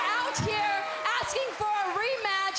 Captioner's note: crowd cheering